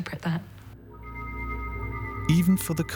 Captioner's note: eerie noises